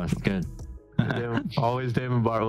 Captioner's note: laughs